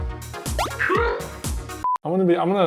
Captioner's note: TV beeps